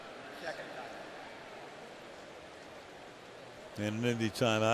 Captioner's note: pa announcement